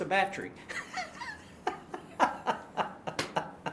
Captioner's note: laughing